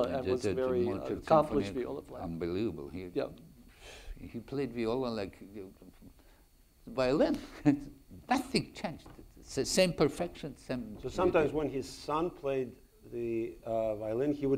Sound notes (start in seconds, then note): 7.4 chuckles